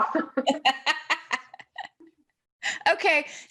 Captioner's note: laughter